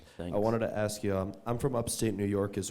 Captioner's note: voiceover